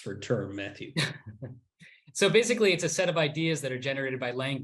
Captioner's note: laughs